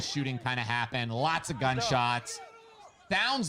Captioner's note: people protesting